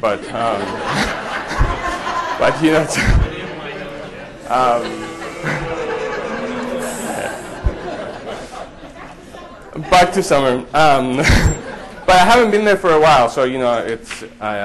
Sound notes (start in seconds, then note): 0.3 audience laughter; 3.4 audience chatter